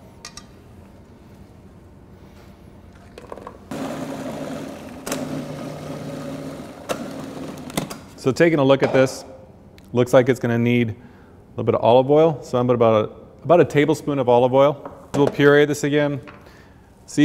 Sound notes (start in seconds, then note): 3.7 blender Sounds